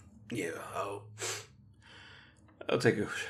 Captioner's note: groan; sniffle